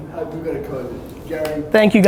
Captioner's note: murmurs